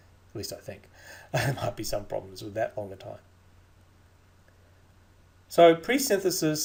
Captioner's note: laughs